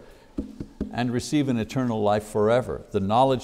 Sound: tapping on desk

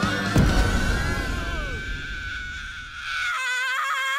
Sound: denzel screams

